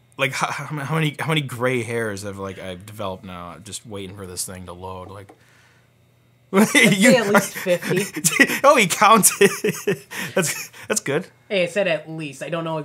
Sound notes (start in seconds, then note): 6.5 laughs